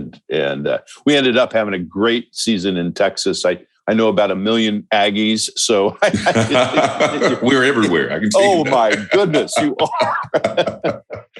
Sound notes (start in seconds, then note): 6.0 laughter; 11.1 chuckle